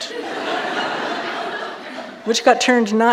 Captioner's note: audience laughing